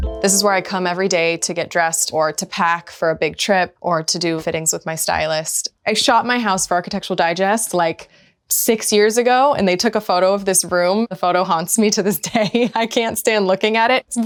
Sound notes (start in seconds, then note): 12.2 laughs